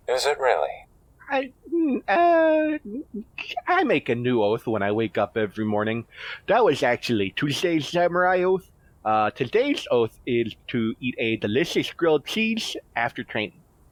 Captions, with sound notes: Is it really? [stammers] I make a new oath when I wake up every morning, that was actually Tuesday’s Samurai oath. Uh, today’s oath is to eat a delicious grilled cheese after training.